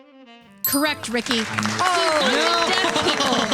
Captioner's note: clapping